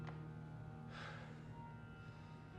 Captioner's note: sighs